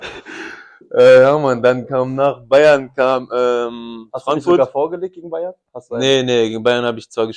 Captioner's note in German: räuspern